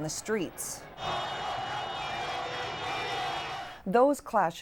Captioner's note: all shouting